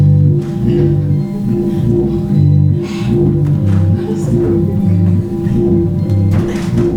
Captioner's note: quiet struggling noises from performers